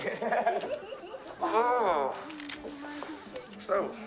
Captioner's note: both Laughing